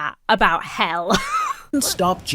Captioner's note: wheezes